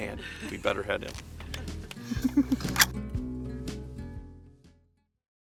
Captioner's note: laughing